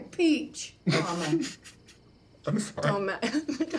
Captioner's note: Mitch snickering